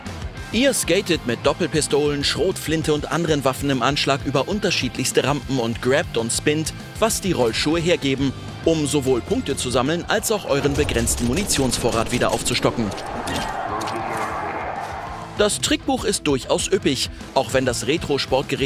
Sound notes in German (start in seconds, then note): 13.3 Ferne Lautsprecherdurchsage